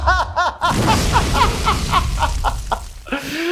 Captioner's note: laughing; blasting